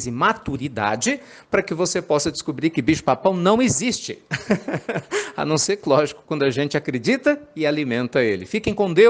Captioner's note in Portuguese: risadas